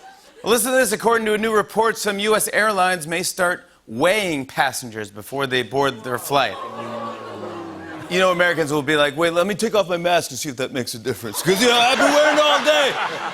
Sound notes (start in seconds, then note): 6.0 booing; 9.1 surfer voice